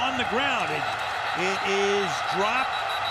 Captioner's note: whistle blows